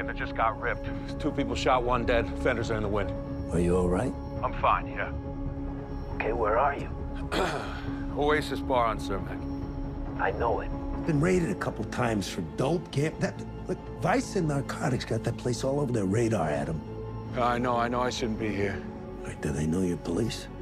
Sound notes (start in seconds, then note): 7.3 clears throat; 15.2 stammers